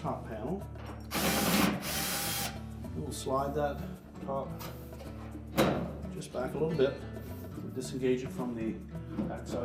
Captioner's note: drilling sound